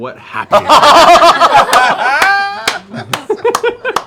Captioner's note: laughter